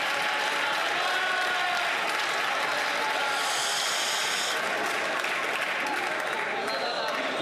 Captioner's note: some Applause